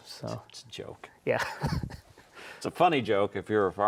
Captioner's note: laughs